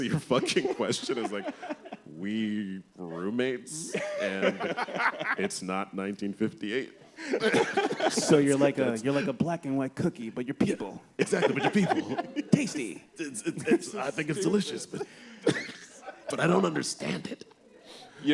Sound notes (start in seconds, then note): 4.4 laughter